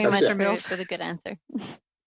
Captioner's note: laughter